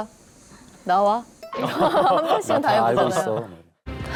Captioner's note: laughing out loud